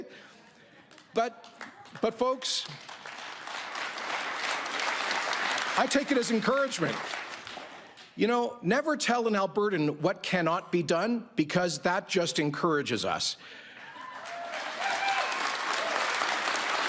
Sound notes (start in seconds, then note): 7.0 applause